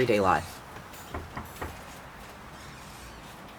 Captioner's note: knocking on door